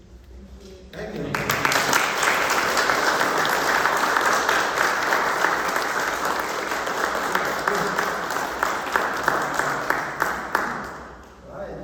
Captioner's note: applause